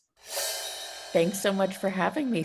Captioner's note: air whooshing